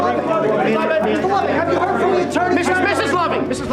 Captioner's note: murmurs